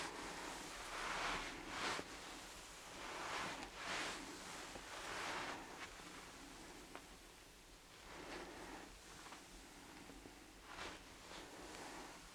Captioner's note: shuffling and ruffling